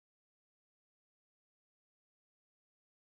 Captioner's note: none